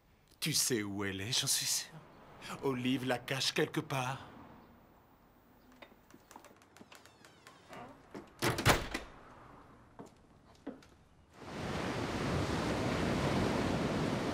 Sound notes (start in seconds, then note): 11.3 waves crashing